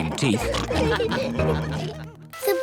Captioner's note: all laugh